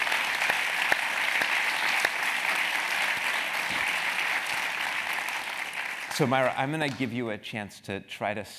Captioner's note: applause